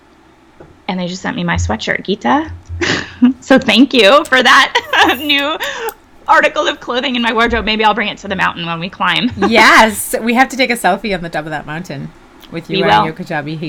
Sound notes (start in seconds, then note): 4.6 laughs